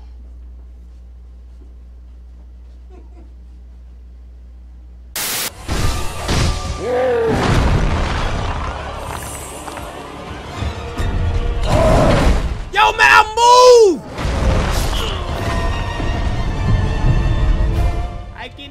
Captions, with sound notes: (static) (monstrous grunts and slamming) Yo man, I moved!